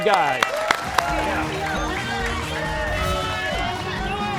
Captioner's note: cheers and applause